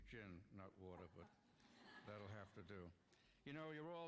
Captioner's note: laughter